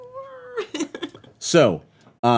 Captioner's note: laughing